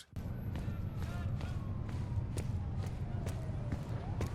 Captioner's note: footsteps pounding